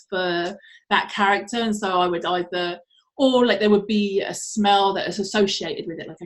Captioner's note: none